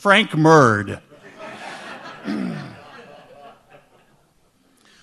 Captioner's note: audience laughs